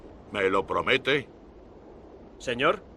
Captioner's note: Victorio speaks Spanish